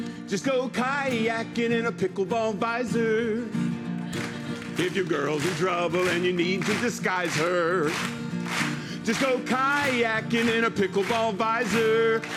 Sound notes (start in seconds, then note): 3.1 rhythmic clapping